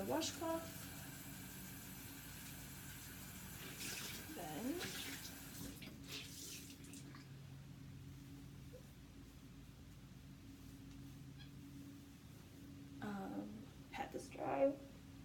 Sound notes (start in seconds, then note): 3.6 water splashing